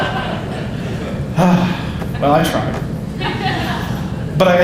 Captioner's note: audience laughing; audience laughing